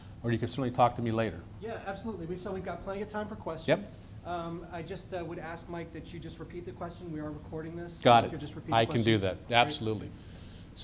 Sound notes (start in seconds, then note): 1.6 voiceover